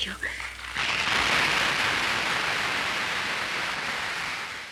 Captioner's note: audience members clapping